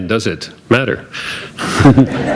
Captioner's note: laughter